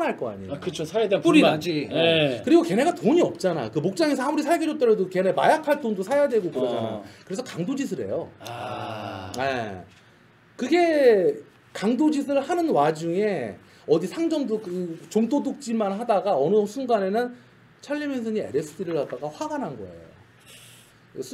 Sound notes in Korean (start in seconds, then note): 8.4 아~